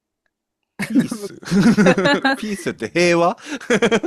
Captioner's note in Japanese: 笑い